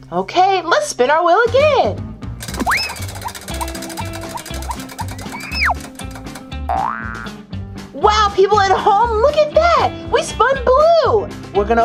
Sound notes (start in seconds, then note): 2.4 spinning, clacking; 6.7 spring boings